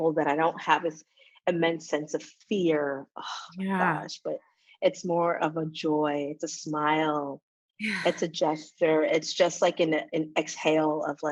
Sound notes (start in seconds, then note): none